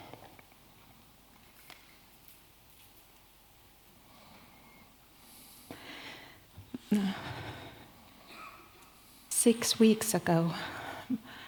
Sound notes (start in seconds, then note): 1.5 silence